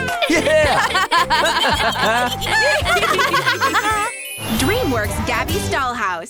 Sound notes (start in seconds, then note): 0.0 laughter; 3.9 shimmer